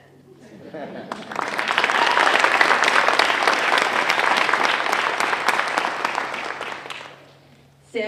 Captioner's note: applause